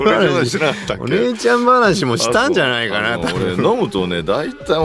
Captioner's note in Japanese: 笑い